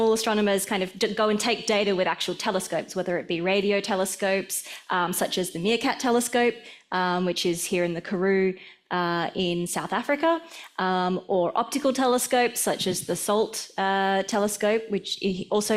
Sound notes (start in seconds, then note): none